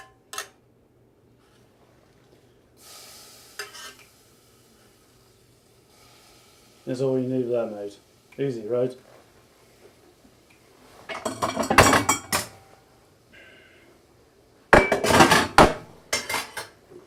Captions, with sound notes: That's all you need of that, mate. Easy right? (clang, clang) (clang, clang, clang)